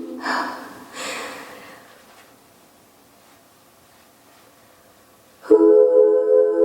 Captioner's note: sighs